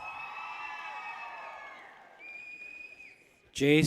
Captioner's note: people cheer